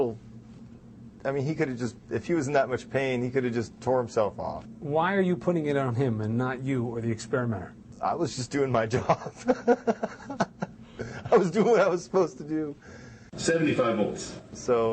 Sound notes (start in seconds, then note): 9.0 laughs